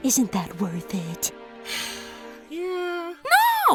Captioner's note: sigh